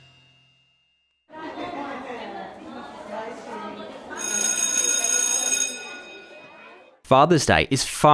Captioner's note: bell ringing over children chattering